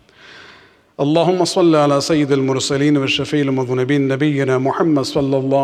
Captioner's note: arabic